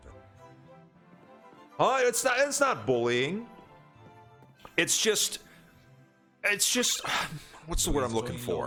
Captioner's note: sighs